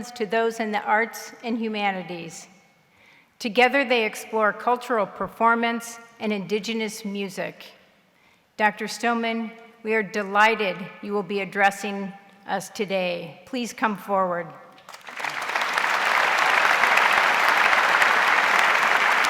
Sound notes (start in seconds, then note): 14.8 audience applauds